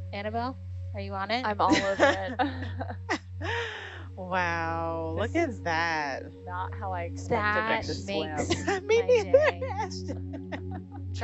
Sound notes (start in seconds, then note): 1.7 women laughing; 7.8 women chatting; 10.3 woman laughing